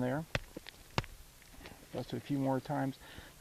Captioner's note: hammer tapping